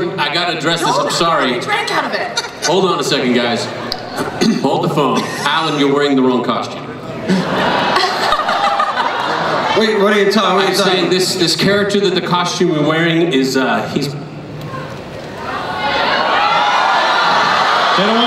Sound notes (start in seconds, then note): 7.2 everyone laughs; 15.3 crowd starts to shout